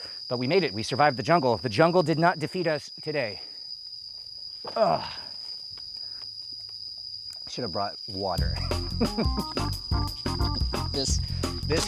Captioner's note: laughs